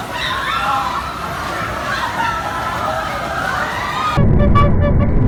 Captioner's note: existential screaming